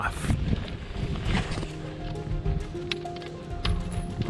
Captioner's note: footsteps crunching; chain clanking